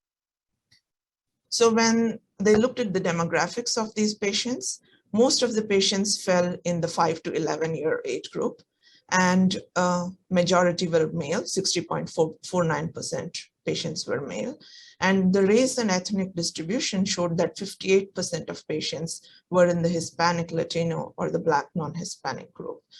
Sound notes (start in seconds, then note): 0.7 silence